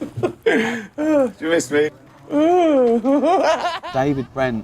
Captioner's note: laughs